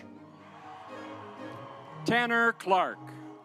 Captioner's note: audience applauds